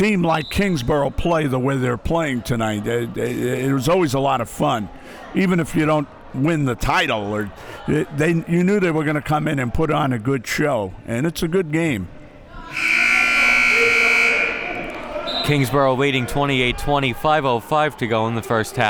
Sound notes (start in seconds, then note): 12.7 buzzer sounding